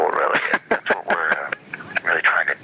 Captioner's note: laughter